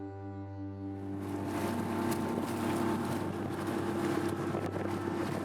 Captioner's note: engine whirring